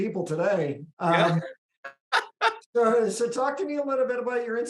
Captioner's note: laughing